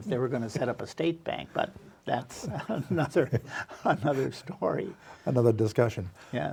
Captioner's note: laughs